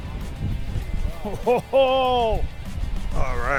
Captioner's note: laughs